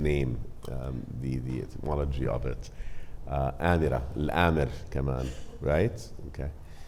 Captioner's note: speaking Arabic